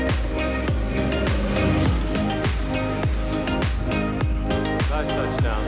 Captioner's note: soft music; plane whizzing